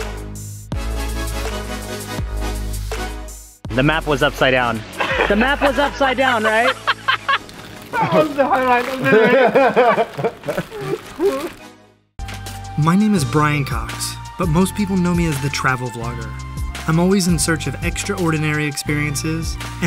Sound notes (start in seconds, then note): 4.9 laughs hysterically; 9.0 laughter